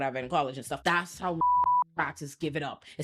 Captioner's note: beep